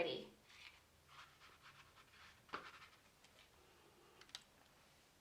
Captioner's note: paintbrush scratching